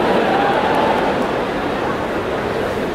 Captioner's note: the audience laughed